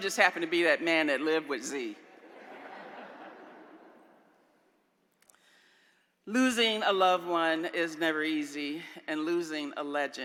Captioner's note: laughter